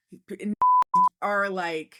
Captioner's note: beep